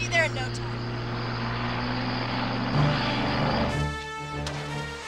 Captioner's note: tires screeching